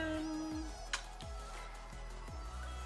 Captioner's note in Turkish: kiss